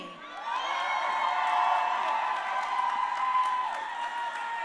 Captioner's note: crowd cheering